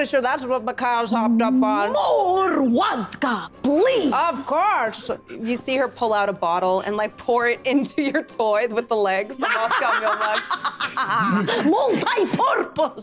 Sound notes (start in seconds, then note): 9.4 Isabella laughing maniacally